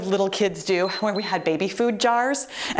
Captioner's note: timer beeps